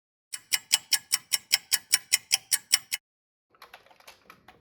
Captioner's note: sound of a ticking clock